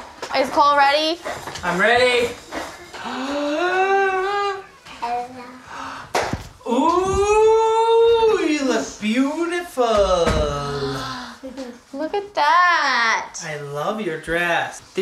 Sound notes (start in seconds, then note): 0.0 hands slap; 3.1 gasps; 10.7 gasps